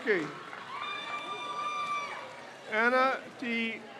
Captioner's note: crowd cheers